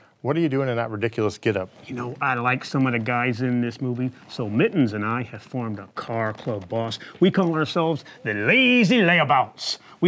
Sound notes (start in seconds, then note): none